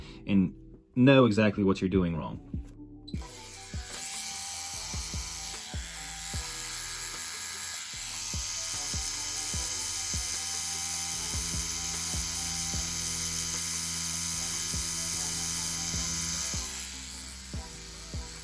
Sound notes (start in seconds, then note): 3.4 tattoo machine motor buzzing; 10.8 light music